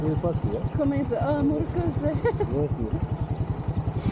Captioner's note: laughing